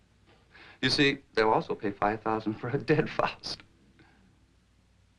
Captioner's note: chuckles